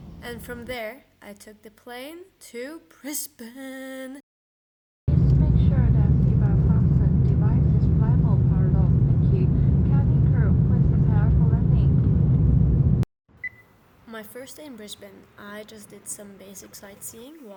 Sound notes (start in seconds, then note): 5.1 plane noises